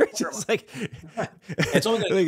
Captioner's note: laughing